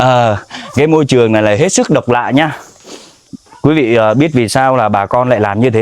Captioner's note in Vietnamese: khịt mũi